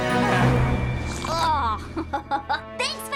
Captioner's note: giggling